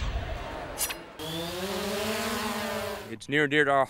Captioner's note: engine whirring